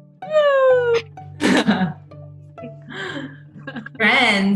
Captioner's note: laughing